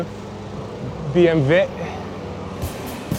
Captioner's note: speaking German